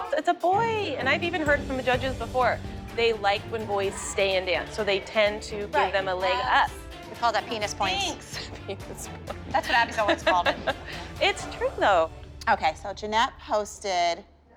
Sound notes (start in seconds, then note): 7.5 laughs